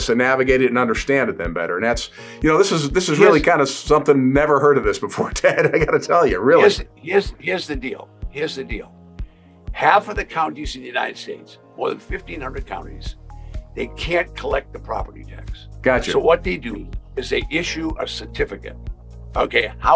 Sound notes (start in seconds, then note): 5.2 chuckles